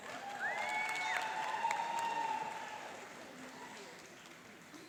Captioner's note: cheering and applauding